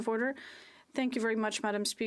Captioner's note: speaking French